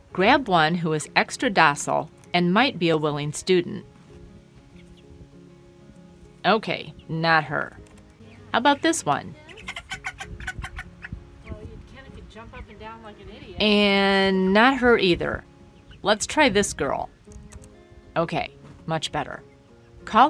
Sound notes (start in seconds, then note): 9.4 clucking